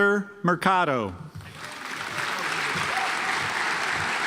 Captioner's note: audience applauds